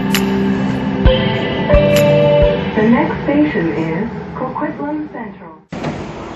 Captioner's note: next Station Chime